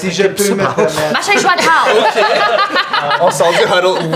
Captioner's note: laughter